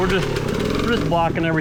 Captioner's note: engine revving